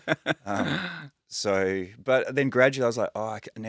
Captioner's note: laughing